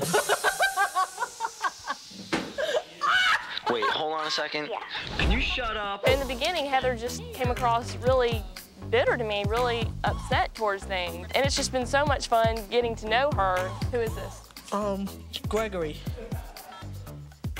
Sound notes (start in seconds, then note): 0.2 laughing; 4.8 girl over phone